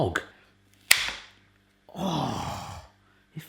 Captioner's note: slicer snaps